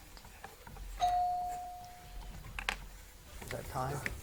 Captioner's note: bell rings